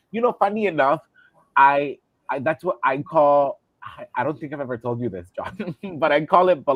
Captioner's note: laughter